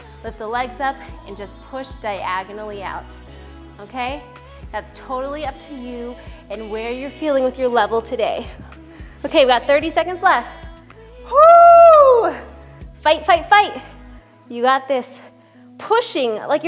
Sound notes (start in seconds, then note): 11.2 whooping